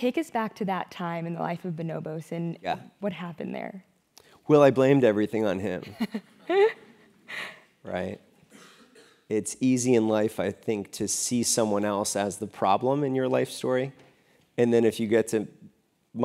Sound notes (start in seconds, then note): 5.9 laugh